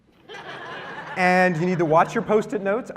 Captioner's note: laughter